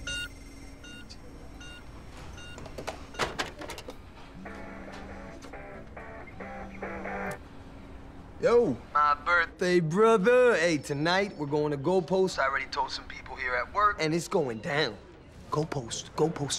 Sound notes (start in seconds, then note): 4.3 cell phone buzzing